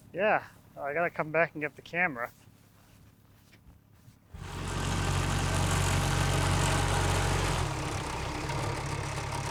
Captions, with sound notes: Yeah, I gotta come back and get the camera. (tractor rumbling)